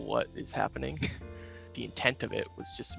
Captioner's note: chuckles